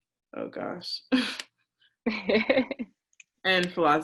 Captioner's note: laughs